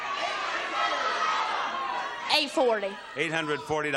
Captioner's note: audience shouting